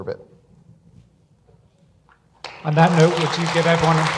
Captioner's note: audience applause